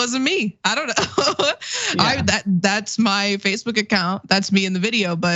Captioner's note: laugh